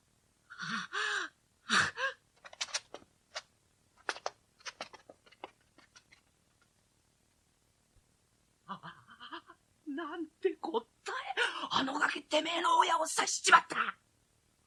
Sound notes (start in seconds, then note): 2.3 SFX: frantic footsteps